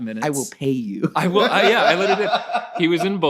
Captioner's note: laughing